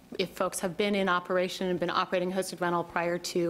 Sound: none

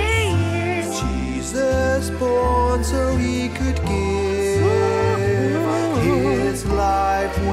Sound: Grumpy vocalises

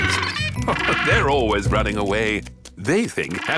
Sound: laughing

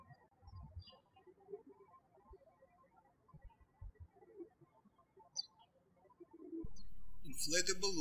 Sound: birds chirping

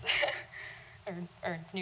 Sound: laughing

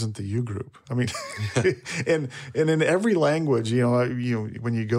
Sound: laughs

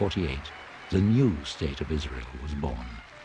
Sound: lively festive music; crowd conversing

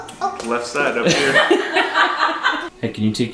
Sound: family laughter

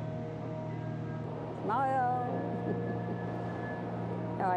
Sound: chuckles

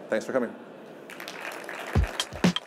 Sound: applause

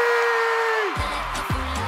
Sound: cheers and applause

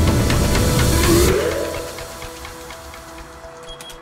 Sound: digital sound wave; beeping

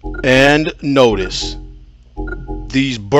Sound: text dinging

